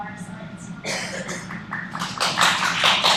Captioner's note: applause